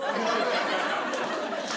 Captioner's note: laughter